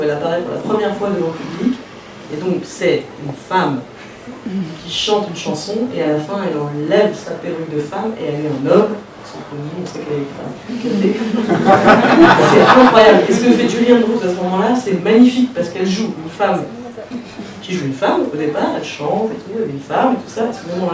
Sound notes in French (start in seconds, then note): 11.2 rires